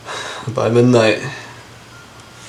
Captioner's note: sighs